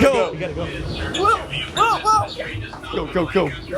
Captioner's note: yelping